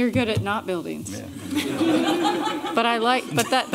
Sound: laughter

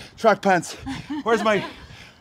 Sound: laugh

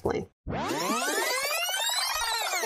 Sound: rewind sound effect

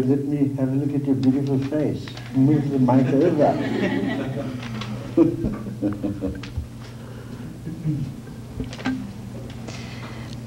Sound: laughs

